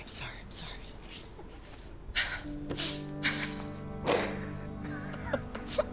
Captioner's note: laughing